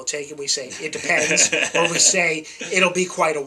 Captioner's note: laughs